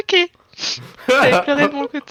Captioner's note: cry